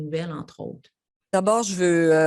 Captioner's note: speaks French